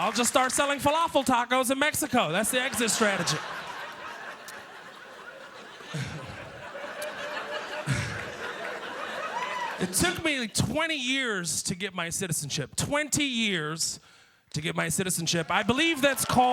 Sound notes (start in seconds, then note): 5.0 laughter